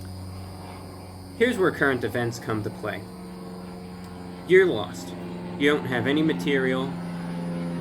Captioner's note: airplane flies overhead